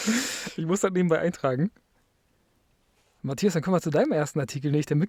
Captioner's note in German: japst